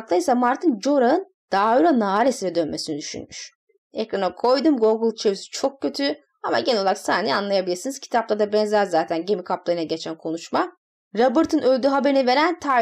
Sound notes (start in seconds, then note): 5.5 Turkish